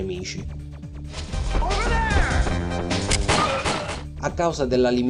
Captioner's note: groan